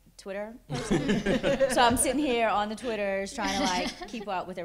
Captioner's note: laughter